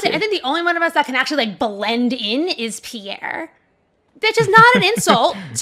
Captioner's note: laughs